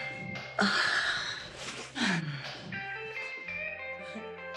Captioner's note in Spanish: Gemidos